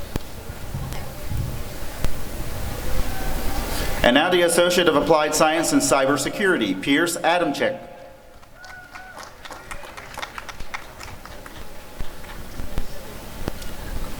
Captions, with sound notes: And now the Associate of Applied Science in Cyber Security— Pierce Adamczyk [applause and cheering]